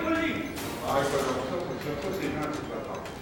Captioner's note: gunman speaking French; speaking French